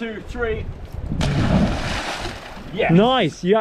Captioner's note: splash